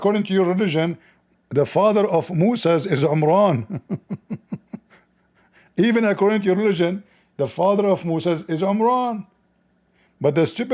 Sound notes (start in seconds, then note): 3.6 Ketawa